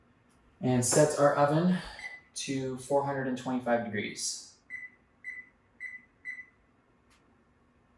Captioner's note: oven beeps as buttons are pushed